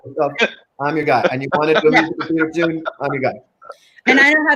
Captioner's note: laughing overtakes speaker